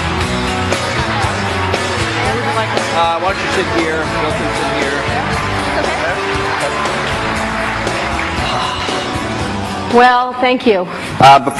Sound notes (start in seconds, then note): 4.1 applause